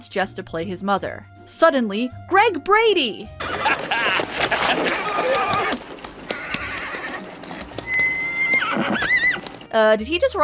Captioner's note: horse gets agitated